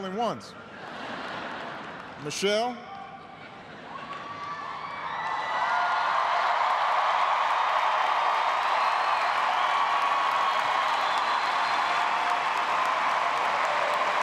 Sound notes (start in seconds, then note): 3.9 cheers and applause